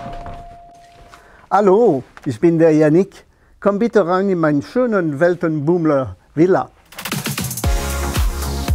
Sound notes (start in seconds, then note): 1.2 French accent; 6.9 brisk music